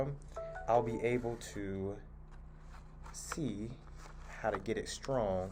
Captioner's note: phone rings